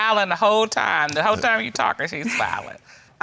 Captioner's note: laughs